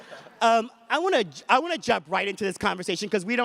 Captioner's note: audience laughs